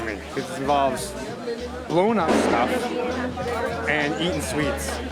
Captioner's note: explosion